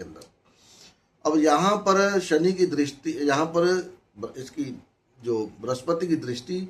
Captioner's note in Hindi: नाक से की जाने वाली आवाज़